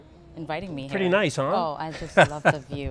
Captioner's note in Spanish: Risas